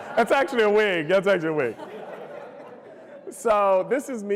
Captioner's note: laughter